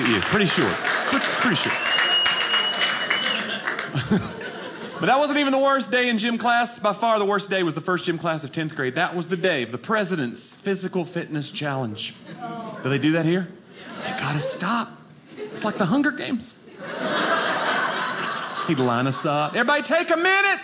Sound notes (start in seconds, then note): 0.0 audience cheering; 16.6 audience laughing